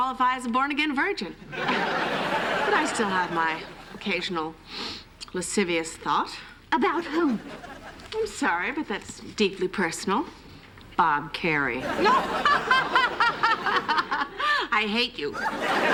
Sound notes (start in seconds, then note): 1.4 laughter; 11.8 laughs; 15.3 laughter